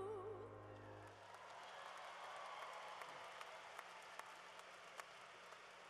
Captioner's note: cheering